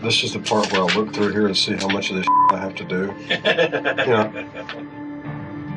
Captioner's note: laughter